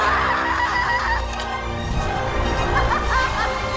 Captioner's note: screams